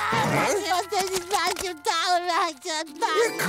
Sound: crying

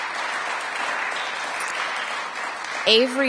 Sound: applause

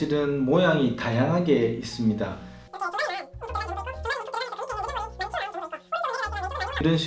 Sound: laughs

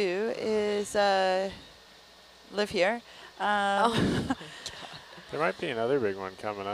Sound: laughs

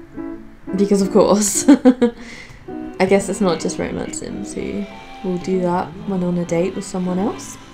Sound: laughs

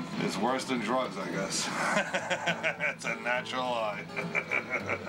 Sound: laughs

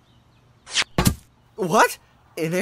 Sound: clunk!

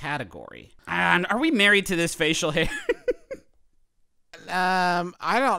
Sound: laughs

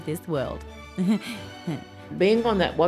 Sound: chuckles

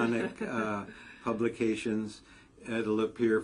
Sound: laugh

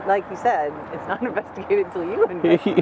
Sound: chuckling

